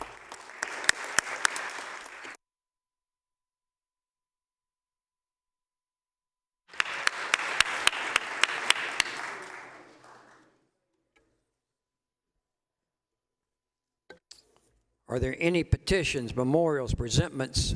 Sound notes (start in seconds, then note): 6.7 applause